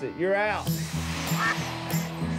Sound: duck quacks; mellow music playing

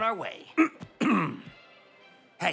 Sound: clears throat

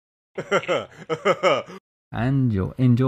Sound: laugh

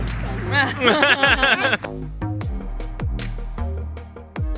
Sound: laugh

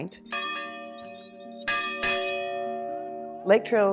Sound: loud resonant ring

